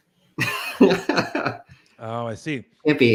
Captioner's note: laughs